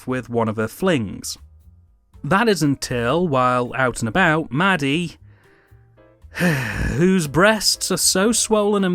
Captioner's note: sigh